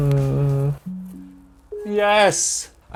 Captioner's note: Windows 11 chime